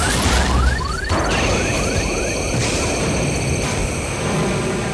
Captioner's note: gas hissing